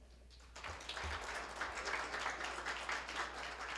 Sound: applause

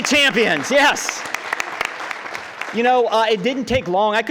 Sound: crowd clapping

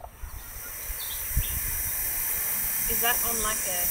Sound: air hissing

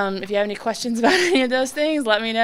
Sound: laughing

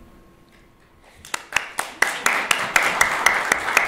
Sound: applause

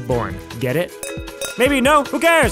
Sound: clinking

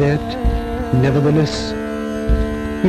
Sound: radio announcement; radio announcement continues

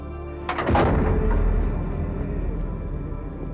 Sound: van door slams, echoes

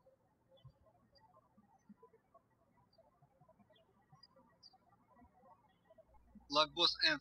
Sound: birds chirping

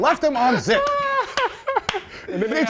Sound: laughter

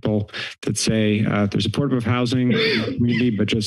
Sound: coughs

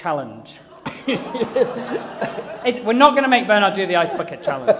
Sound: laughter

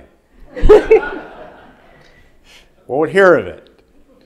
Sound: audience laughing

